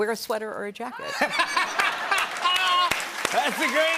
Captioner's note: laughter and applause